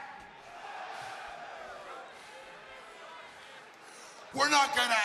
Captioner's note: crowd cheering